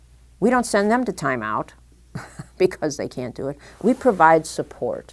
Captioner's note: chuckle